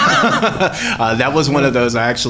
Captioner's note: laughs